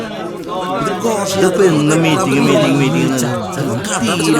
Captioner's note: crowd chattering